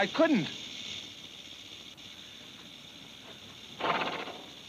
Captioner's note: snake rattles